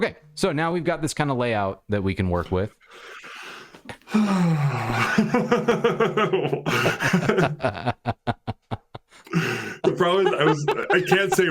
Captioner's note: laughter